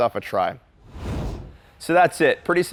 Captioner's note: air whooshes